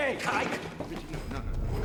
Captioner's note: banging